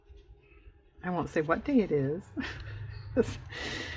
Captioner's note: laughs